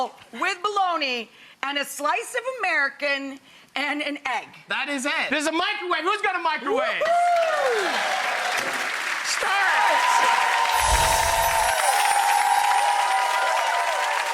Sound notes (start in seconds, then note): 7.0 applause; 10.7 bells tinkling